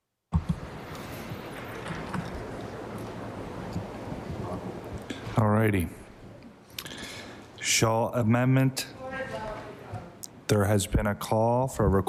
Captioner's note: applause